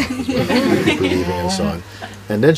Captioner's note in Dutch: gelach